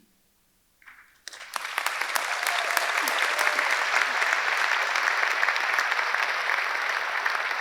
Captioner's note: audience applauding; audience cheering